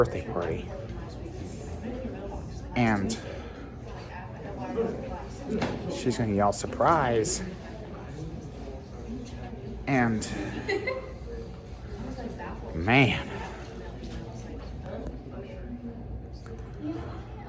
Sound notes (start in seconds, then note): 4.9 Studentys chattering at Purdue Fort Wayne